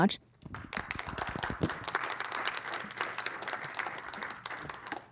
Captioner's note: applause